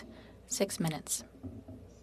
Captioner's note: speaking French